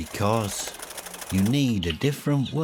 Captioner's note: birds wings fluttering